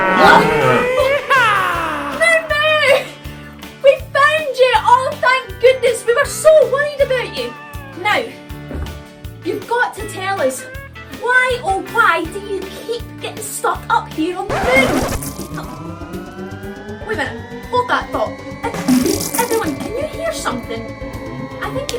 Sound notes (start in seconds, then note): 1.5 instrumental country music; 14.5 random spaceship noises; 14.5 tyres screeching; 18.7 random spaceship noises